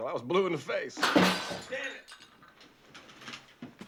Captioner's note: dishes crashing